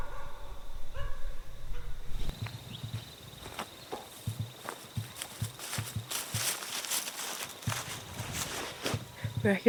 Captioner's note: nature sounds